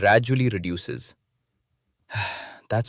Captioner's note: sighs